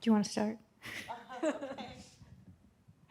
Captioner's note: audience laughs